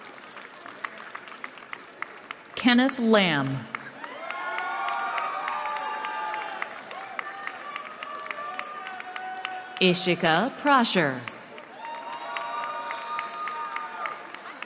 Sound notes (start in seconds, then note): 3.9 cheering